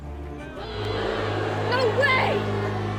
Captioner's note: audience boos